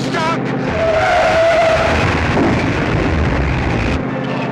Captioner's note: tires screeching